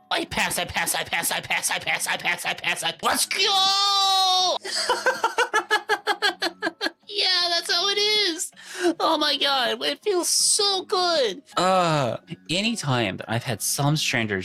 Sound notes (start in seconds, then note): 4.6 laughter